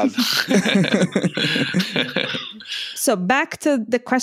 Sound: laughter

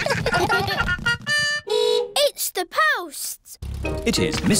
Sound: giggling; horn beeps

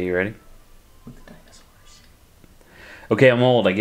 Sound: whispering

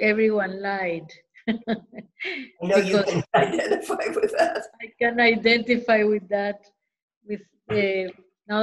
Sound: laughter

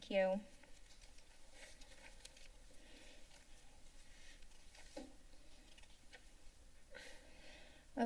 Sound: paper rustling sound; sigh

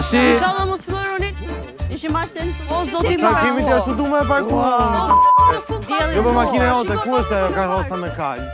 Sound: chattering

